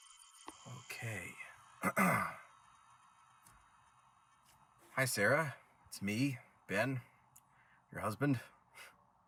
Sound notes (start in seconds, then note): 1.8 clears throat